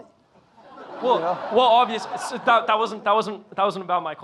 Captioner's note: audience laughing